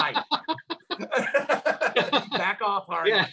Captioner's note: laughs